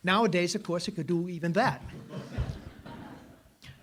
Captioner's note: laughter